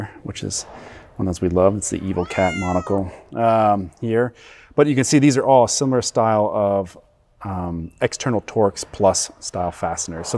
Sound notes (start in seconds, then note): 2.0 cat meows